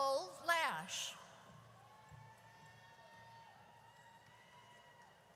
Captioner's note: audience cheers